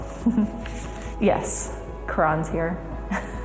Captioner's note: laughs; laughs